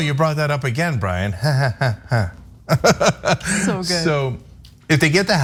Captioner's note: laugh